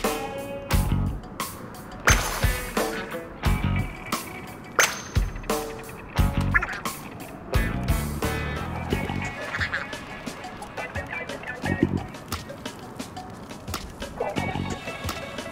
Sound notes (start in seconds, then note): 2.0 high pitched ping; 4.8 high pitched ping; 8.8 funky jam changes to a groove